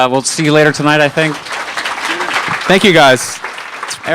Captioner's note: audience applause